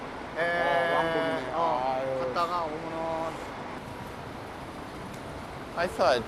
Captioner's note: speaking in foreign language